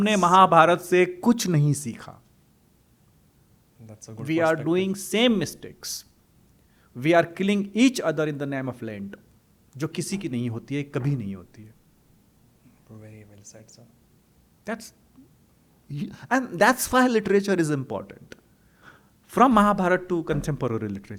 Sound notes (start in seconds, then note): 0.0 hindi; 9.6 hindi